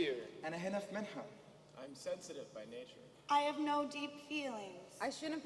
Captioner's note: speaking native language